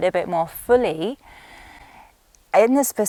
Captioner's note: inhales deeply